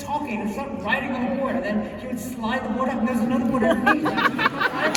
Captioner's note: laughter